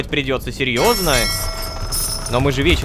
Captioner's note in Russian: Звук корабельного колокола